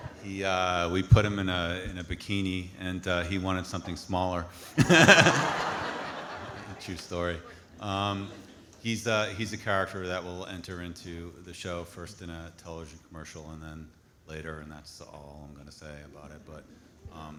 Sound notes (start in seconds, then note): 0.0 audience laughing; 4.8 laughs; 6.5 audience laughs